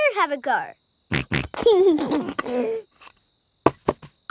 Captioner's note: snorts and laughs